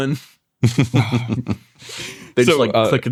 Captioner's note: chuckle